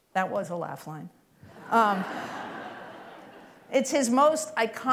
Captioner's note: laughter